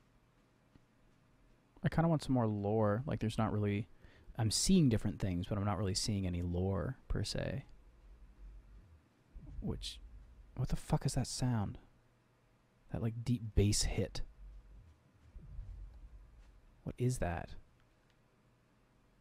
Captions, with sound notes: I kind of want some more lore Like, there's not really... I'm seeing different things, but I'm not really seeing any lore per se Which- [(boom)] What the fuck is that sound? That, like... deep base hit [(boom)] What is that??